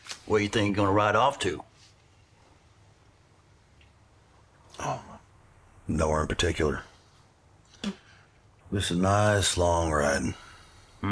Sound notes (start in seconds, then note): none